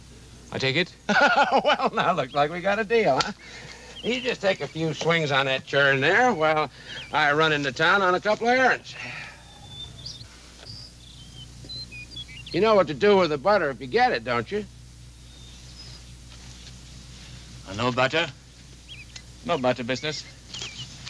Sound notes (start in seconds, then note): 1.0 chuckles; 9.8 birds singing